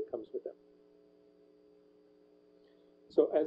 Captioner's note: pause